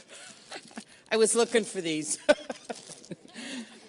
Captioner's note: laughing